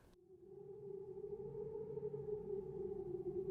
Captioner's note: wind howling